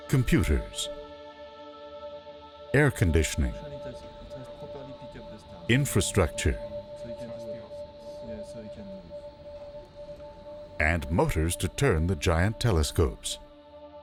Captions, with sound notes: computers, air conditioning, infrastructure... (people speaking in foreign language) And motors to turn the giant telescopes.